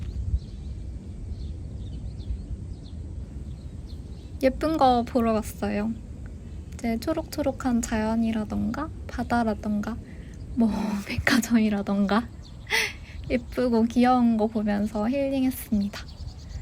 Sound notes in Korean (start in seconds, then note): 10.9 웃음